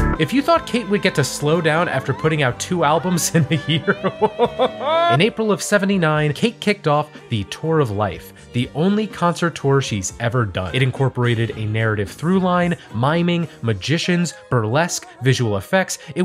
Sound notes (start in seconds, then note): 3.0 chuckling